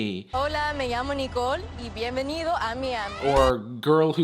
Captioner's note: speaking foreign language